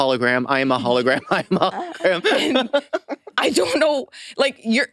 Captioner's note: laughs